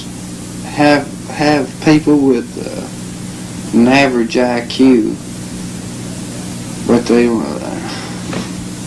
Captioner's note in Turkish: iç çekerler